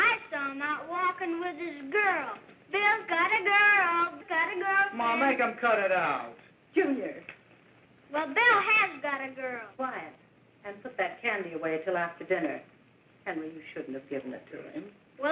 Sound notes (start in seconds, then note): none